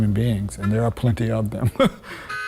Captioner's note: chuckles